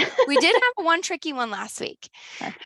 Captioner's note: laughs